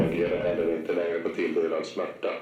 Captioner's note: distant boom